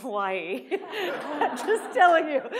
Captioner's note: laughter